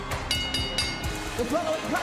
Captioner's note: bell rings